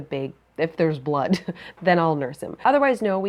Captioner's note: chuckles